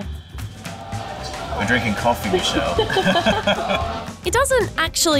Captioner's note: all chuckle